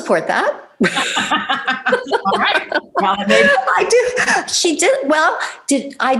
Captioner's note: laughs